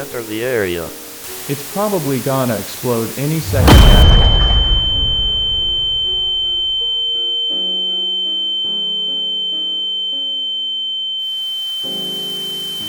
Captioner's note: large explosion